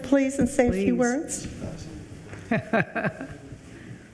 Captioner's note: laughs